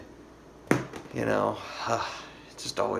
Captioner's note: sighs